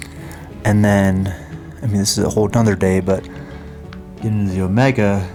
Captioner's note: sighs